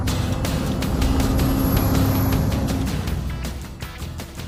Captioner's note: truck engine hums